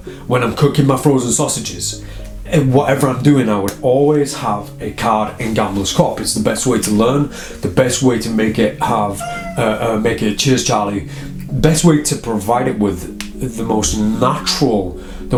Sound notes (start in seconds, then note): 8.8 bird squawKing